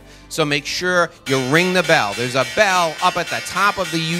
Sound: bell clanging

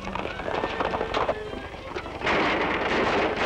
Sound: gunshots

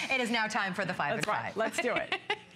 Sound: laughter

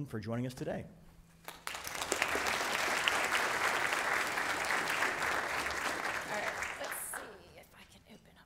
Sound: applause

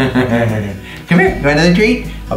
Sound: laughs

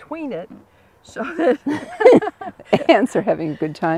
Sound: laughing

